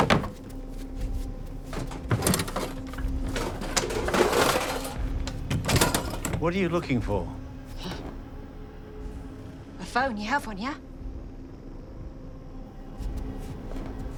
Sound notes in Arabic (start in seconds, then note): 4.5 يفتح الباب